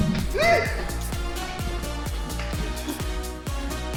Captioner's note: shrieks